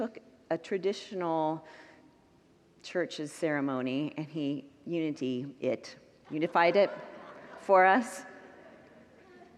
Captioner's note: congregants laugh